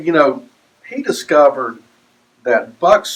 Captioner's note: none